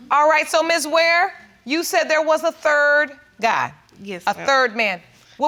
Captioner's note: none